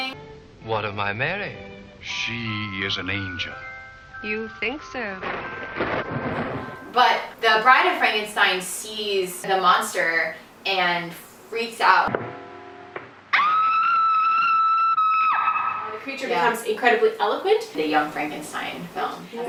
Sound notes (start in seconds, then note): 5.7 thunder rumbles; 13.3 clip: *Bride of Frankenstein shrieks